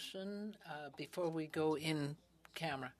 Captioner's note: speaking in french